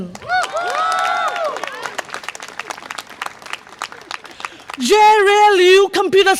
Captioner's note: audience applause and cheer